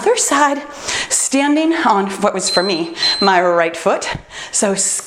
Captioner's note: timer beeps